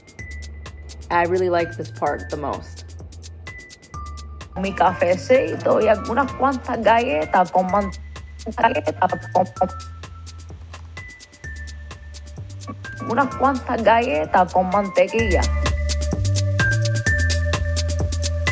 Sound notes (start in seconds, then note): 4.6 speaking Spanish; 8.4 rewinding speech; 15.6 uptempo music